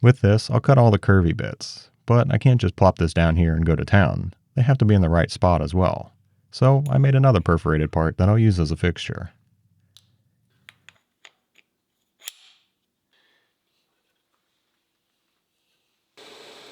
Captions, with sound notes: With this, I'll cut all the curvy bits, but I can't just plop this down here and go to town. They have to be in the right spot as well. So, I made another perforated part, then I'll use as a fixture. (metal clanking)